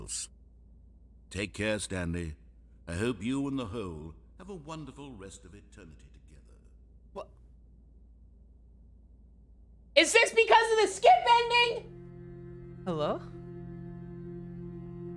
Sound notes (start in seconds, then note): 1.3 voice becoming more distant; 11.7 droning music